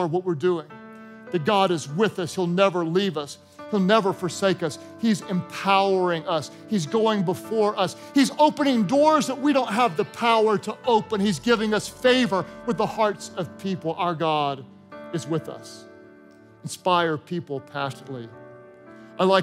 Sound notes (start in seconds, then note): none